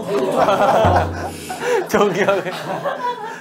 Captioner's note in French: Rigole soudainement